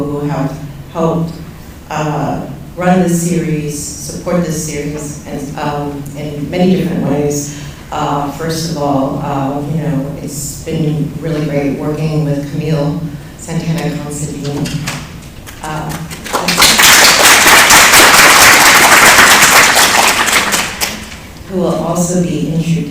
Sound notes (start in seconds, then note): 15.9 applause